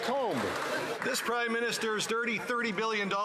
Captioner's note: some Applause